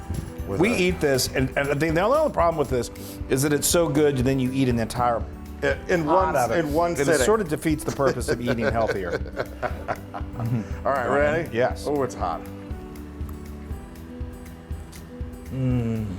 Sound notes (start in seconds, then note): 7.8 laugh